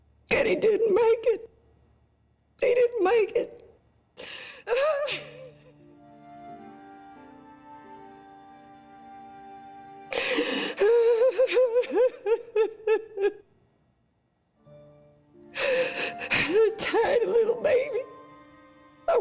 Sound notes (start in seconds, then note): 4.6 cries; 7.1 somber music